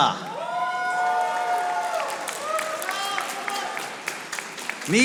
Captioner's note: audience applauding